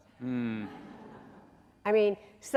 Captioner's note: audience laughing